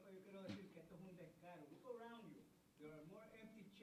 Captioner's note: speaking Spanish